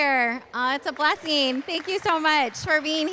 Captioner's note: applause